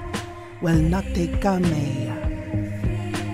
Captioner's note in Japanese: ナヴィ語